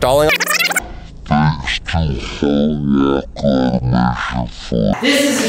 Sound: rewinding tape; deep murmur

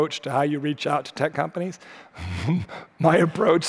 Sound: laughing

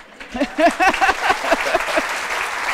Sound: applause; laughs

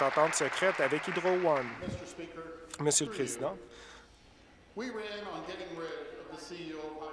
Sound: applause

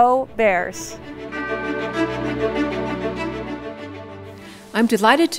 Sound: bright orchestral music; bell dings

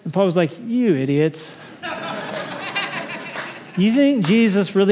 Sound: laughter

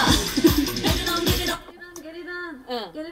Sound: laughing

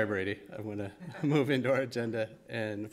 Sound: chuckle

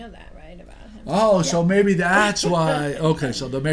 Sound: voiceover

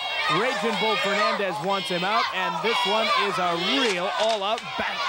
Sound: crowd yelling

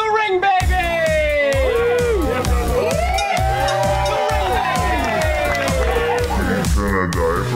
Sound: techno dance music; cheering

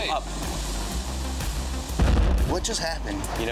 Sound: explosion

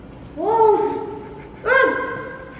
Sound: snickering

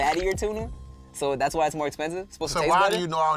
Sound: beep

